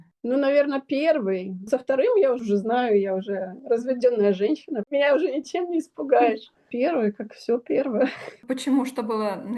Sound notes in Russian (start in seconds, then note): 8.0 смех